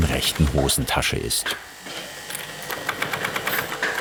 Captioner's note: whirring, rattling